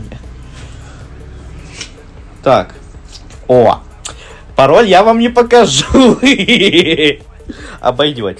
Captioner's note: hahaha